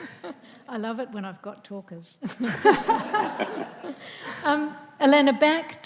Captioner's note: audience laughs